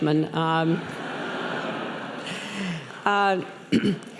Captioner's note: laughing